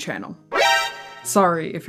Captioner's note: Metal Gear Solid alert noise